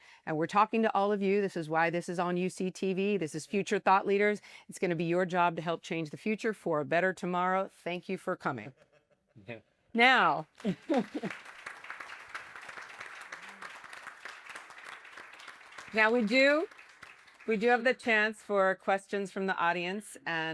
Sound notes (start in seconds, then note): 10.4 applause